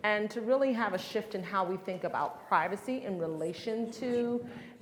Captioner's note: none